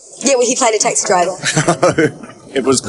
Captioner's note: laughing